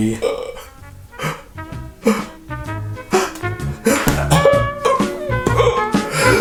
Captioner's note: gasping; upbeat jazzy music